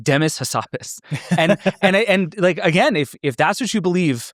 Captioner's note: laughs